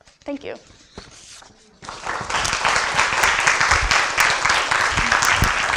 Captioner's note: applause